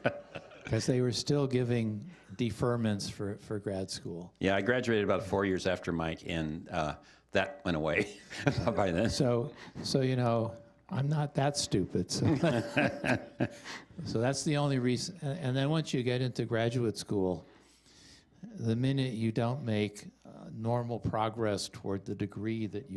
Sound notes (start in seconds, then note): 12.1 chuckling